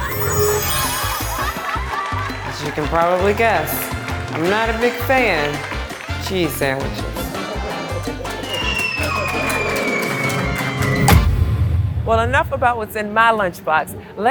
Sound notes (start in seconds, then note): 0.0 magic wand swooshes; 8.5 cartoon falling sound